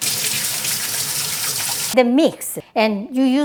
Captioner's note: water running